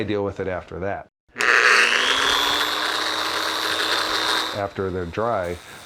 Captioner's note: machine whirring